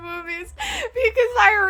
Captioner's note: inhale